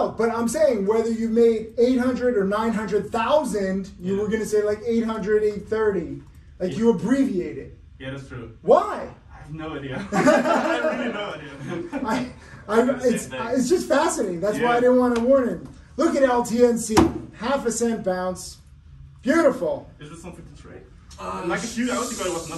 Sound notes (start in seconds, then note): 10.0 everyone laughing